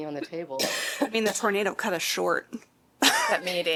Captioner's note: laughter